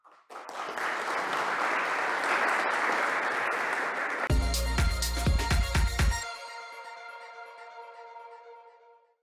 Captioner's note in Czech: Potlesk